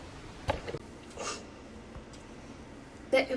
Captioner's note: sniff